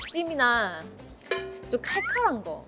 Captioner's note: mouth watering